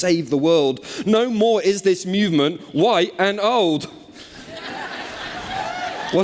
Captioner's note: cheers